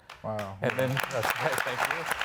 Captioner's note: audience clapping